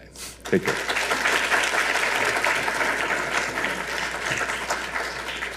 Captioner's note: audience applauding